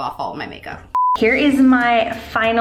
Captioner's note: beep